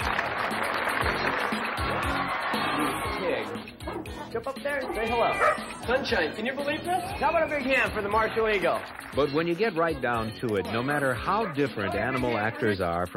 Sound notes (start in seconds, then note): 0.0 audience applauds; 5.3 dog barks